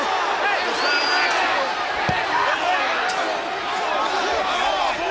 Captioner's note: crowd cheering